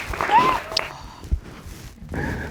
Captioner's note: sobbing